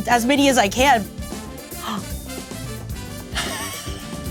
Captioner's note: laughs